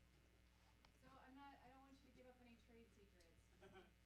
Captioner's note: voiceover